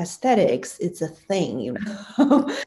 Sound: laughs

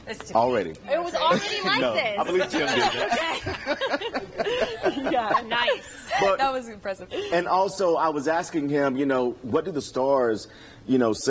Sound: laughter

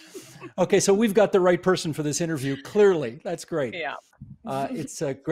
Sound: laughter

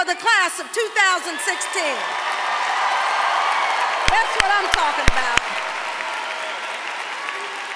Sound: applause

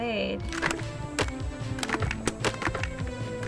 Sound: objects clattering

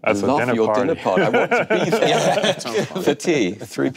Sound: panel laughing

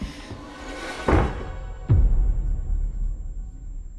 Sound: door bangs open

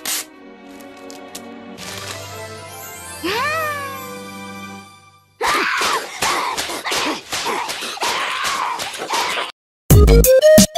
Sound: not happy noises

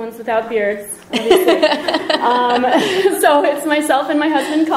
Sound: laughter

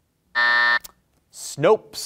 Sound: buzzer buzzing

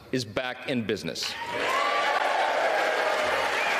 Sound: applause

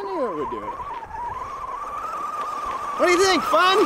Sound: remote control truck engine humming

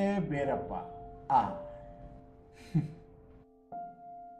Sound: mild laugh

